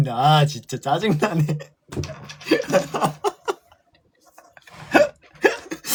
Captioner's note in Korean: 웃음